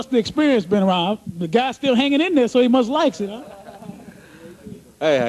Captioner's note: laughter